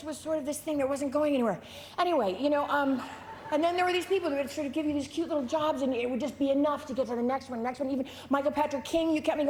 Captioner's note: laughter